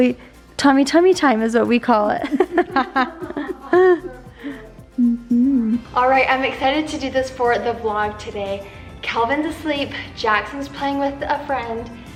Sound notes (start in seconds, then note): 2.3 laughs